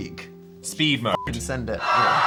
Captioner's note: beep; passengers screaming